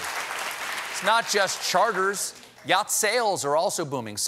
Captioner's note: applause